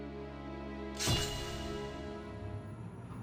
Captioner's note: metal clanging